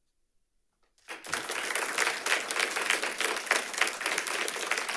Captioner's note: audience applauding